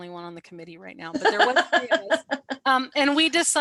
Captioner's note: laughter